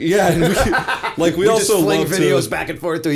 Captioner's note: laughter